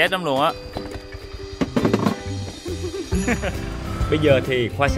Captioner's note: laughter